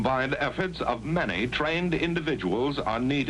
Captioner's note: none